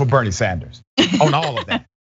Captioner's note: laugh